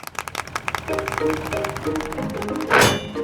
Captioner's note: clapping